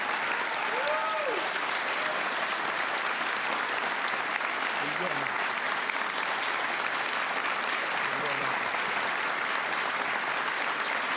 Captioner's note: cheers and applause